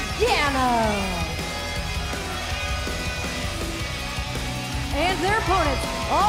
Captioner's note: crowd cheering